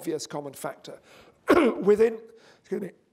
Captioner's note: cough